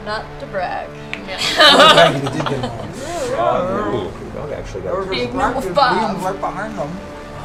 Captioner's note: laughs